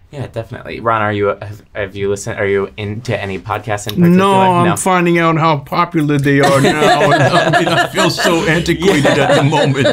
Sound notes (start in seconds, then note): 6.4 laughter